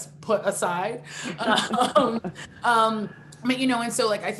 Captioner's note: both laughing